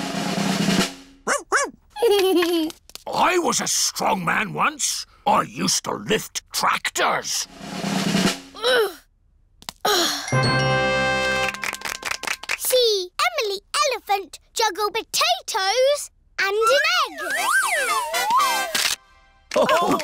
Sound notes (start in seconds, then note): 0.0 drumroll; 2.0 giggles; 7.4 drum roll; 8.3 groans